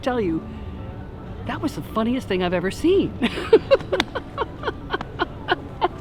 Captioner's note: laughs